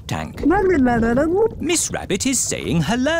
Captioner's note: gurgling